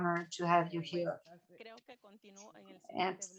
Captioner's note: speaking spanish